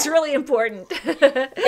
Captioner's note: laughter